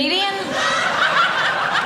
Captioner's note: audience laughing